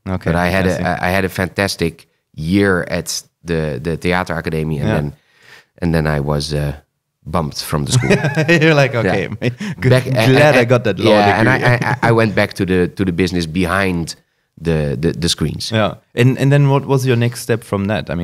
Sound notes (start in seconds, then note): 7.9 laughs